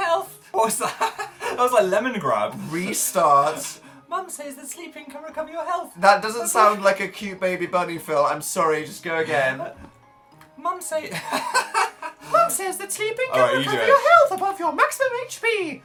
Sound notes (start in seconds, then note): 0.0 straining high-pitched voice; 0.2 laughing; 3.9 attempting softer high-pitched voice; 11.2 breaks off laughing hysterically